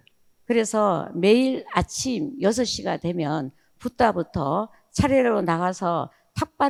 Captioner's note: speaking in foreign language